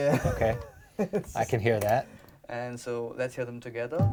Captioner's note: laughs